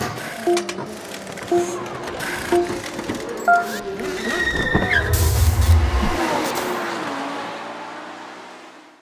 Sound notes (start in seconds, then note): 0.3 beeping; 3.8 tires squealing; 5.1 engines revving